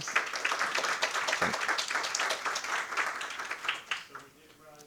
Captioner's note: audience applauding